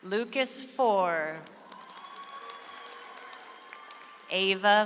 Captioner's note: audience applauds